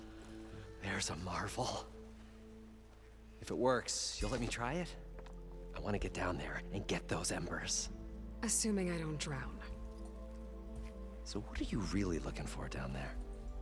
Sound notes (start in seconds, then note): none